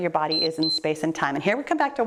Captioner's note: timer beeps